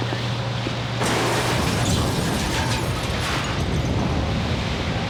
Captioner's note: explosion booming